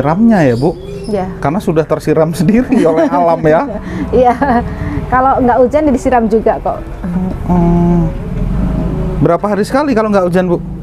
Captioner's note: laugh